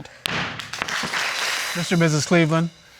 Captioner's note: audience applauds